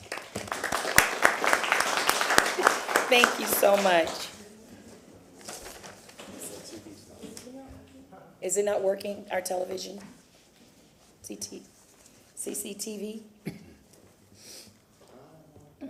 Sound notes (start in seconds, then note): 2.8 applause